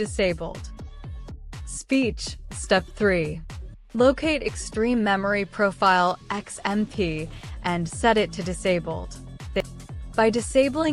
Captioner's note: speech